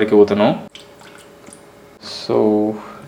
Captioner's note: pouring liquid